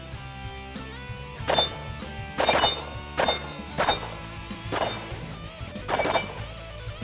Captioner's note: gunshots